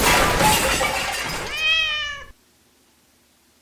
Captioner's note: explosion; disgruntled Cat Noises